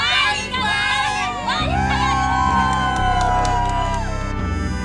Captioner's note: cheers